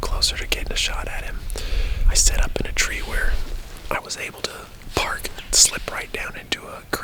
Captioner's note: whispering